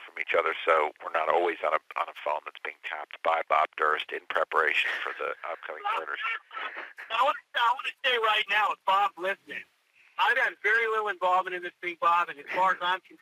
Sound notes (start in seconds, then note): 4.6 laughs